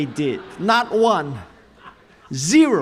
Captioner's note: chuckles